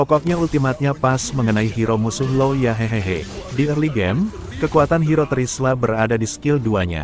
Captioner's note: laughs